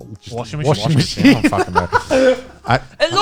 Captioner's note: guys laughing